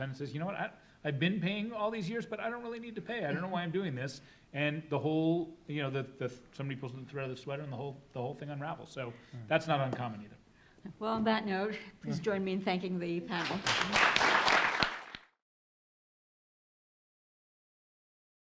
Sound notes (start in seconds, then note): 13.3 audience applauds